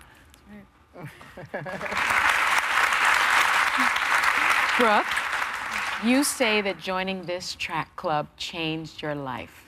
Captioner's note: applause